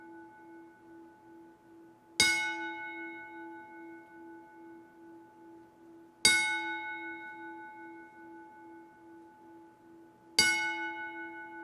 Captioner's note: bell tolling